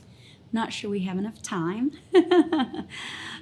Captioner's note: giggling